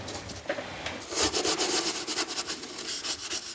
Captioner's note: wiping noises